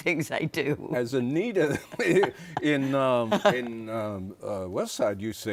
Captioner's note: chuckles